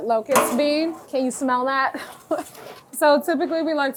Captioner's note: laughs softly